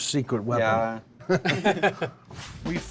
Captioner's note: laughter